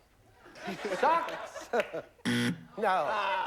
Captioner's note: buzzer